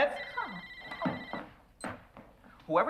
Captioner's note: phone ringing